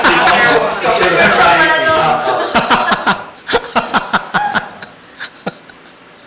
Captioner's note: indistinct chatter